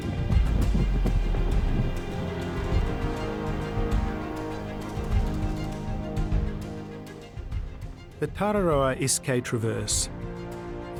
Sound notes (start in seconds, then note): 0.0 wind rustling